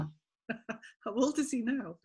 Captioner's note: laughs